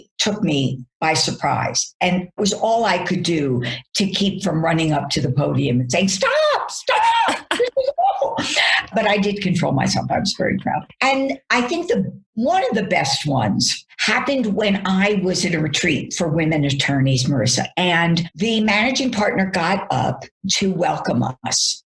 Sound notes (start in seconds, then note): 7.3 both laugh